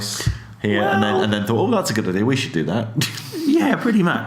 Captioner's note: laughs